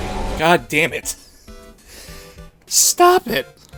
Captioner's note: wheeze